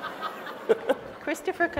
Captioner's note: laughs; audience laughs